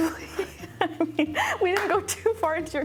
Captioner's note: laughing